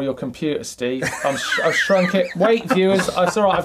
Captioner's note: laughing